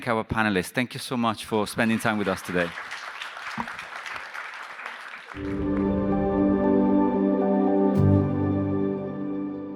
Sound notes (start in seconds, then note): 3.4 audience applauds; 5.4 uplifting music